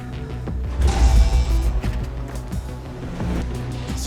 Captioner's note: electric noise